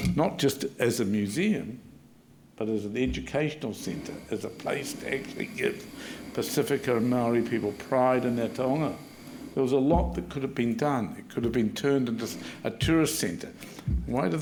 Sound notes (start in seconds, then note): 9.0 speaking Maori